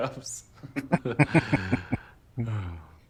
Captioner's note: chuckling